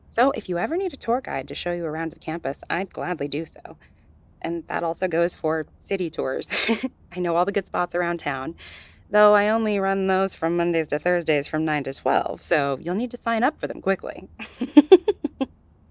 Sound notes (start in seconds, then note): 8.3 joking tone; 14.4 light chuckle